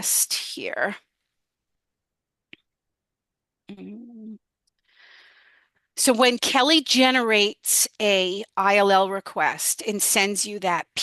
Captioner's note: humming